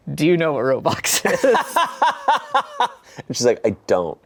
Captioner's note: everyone laughs